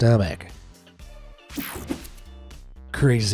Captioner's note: screen whooshing